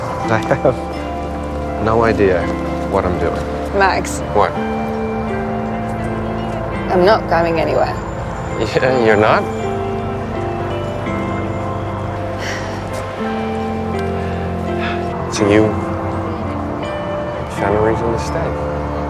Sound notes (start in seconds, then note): 12.4 Helen sighs; 14.6 Max sighs